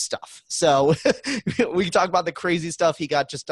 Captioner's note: laughs